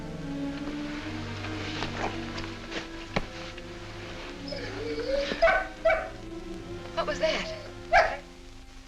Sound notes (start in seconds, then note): 4.6 dog barking